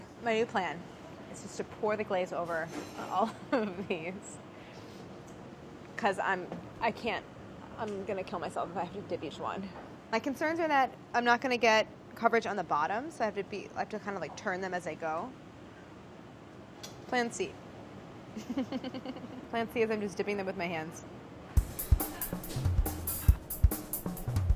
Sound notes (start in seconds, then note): 18.4 laughs; 21.6 upbeat drum beat